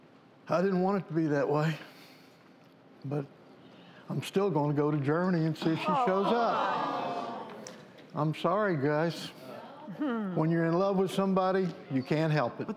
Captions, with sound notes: - I didn't want it to be that way. But, I'm still gonna go to Germany and see if she shows up. (audience moaning) I'm sorry guys. - Hmm. - When you're in love with somebody, you can't help it.